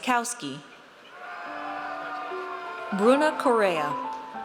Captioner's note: audience cheers